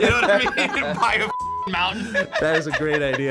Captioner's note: beep